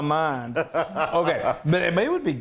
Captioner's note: laugh